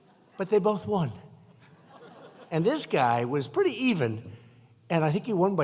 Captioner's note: laughter